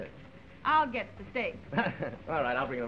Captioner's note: laughs